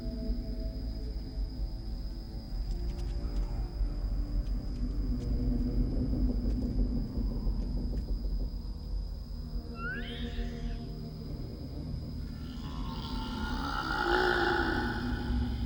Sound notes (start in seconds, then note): 9.8 squealing; 12.3 growling